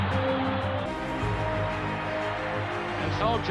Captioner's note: crowd cheering